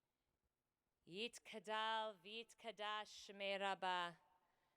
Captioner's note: speaking hebrew